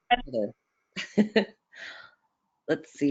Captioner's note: chuckles